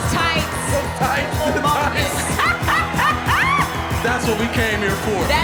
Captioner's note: laughs